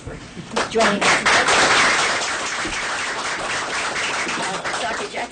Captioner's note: applause